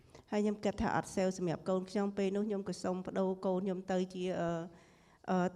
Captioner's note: speaking foreign language